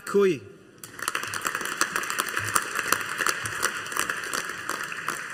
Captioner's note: audience applauding